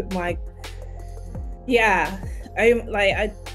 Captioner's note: stammering